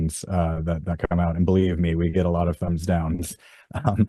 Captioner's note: laughs